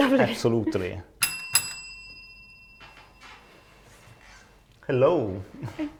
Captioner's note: bell clanging